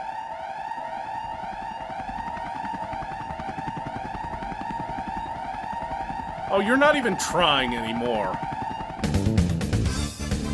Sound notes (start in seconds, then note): 0.1 alarms blare; 2.1 helicopter sound